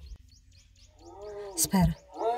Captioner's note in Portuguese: som de onça